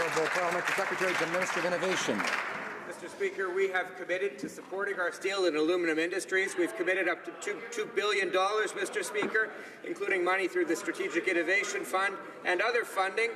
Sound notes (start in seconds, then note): 2.1 some Applause